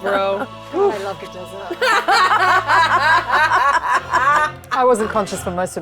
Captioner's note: players laughing